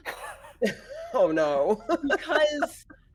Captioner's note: people laughing